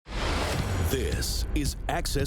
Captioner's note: screen whooshing